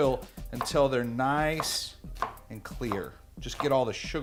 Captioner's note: banging